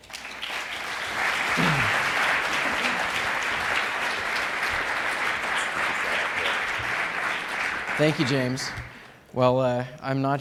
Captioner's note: applause